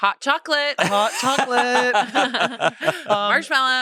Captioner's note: everyone laughs